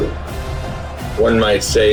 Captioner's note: crowd Noises